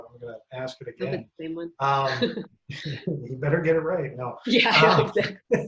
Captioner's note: laughter